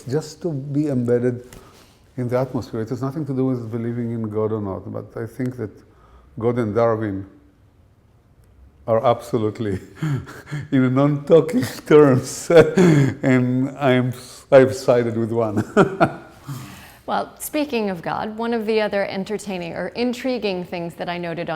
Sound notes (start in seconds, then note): 11.5 laughter